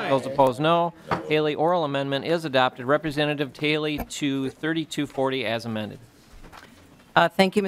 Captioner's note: chorus of ayes